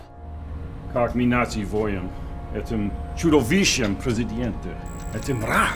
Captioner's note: speaking in a foreign language